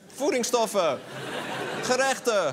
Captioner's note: laugher